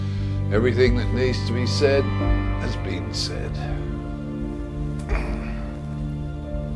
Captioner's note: grunts; somber music